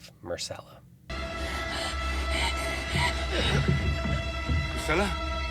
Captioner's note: hyperventilating